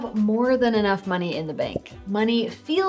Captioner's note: text bubble popping